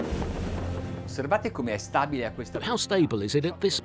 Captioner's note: speaking in a foreign language